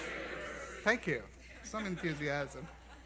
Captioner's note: laughs